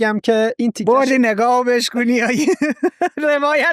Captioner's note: laughs